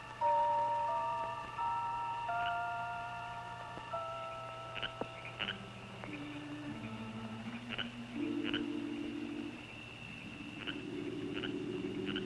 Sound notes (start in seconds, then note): 2.9 frogs croaking; 7.1 stirring music